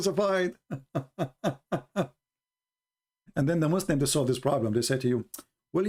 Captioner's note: Ketawa